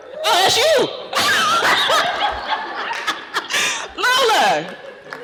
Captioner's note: laughter